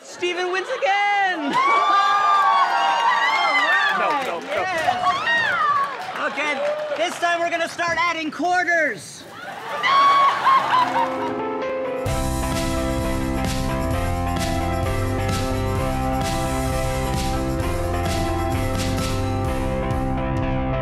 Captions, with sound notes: >>STEPHEN WINS AGAIN! >>[CHEERING] >>ALL RIGHT! >>NO, NO, NO! >>OKAY. THIS TIME WE'RE GOING TO START ADDING QUARTERS! >>[SCREAMING]